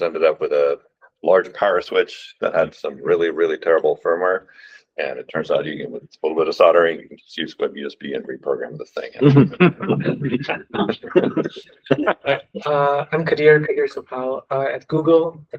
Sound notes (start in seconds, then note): 9.2 laughter